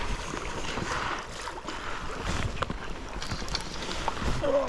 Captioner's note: water sounds